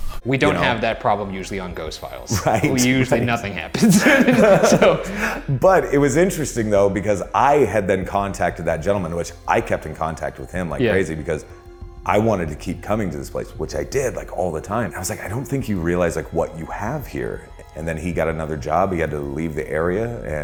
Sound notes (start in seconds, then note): 3.7 laugh